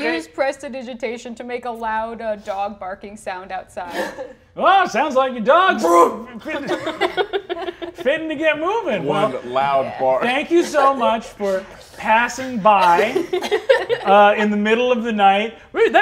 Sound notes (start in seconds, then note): 5.8 mimics dog barking; 6.3 players laughing; 12.7 players laughing